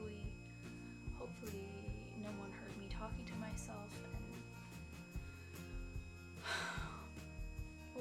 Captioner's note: sighs